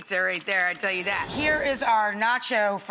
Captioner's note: air whooshing